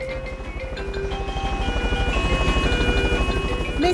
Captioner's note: emergency siren sounding